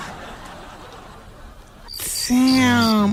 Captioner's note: laughing